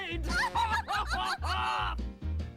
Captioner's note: laughing